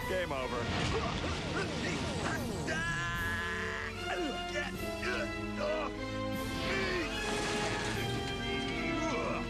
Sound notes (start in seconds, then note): 2.2 grunting